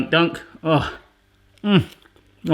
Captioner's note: sighs